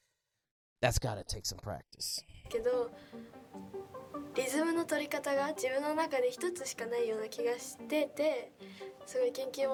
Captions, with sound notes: that's gotta take some practice. (speaking in foreign language)